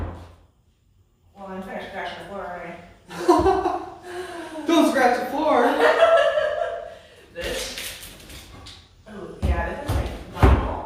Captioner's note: laughs